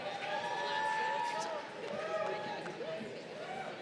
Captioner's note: crowd cheering